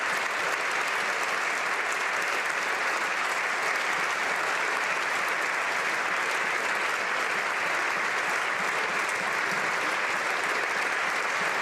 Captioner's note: applause